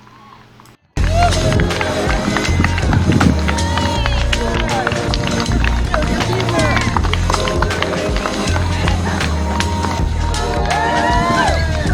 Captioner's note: cheering, clapping